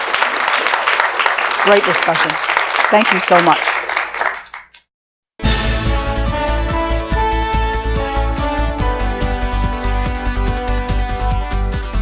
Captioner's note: applause